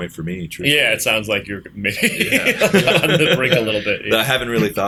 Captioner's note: laughter